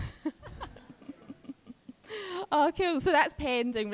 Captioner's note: all chuckling